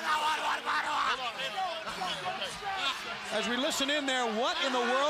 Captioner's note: crowd chatter